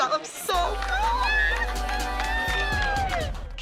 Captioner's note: cheering